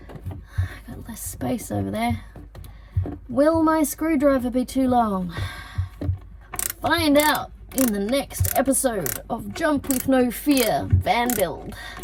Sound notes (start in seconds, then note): 3.3 in an announcer-like manner